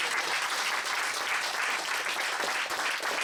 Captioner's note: applause